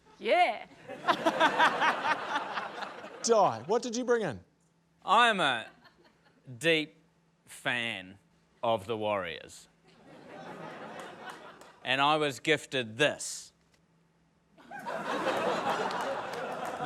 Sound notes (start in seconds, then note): 0.8 laughter; 10.7 scattered laughter; 14.6 laughter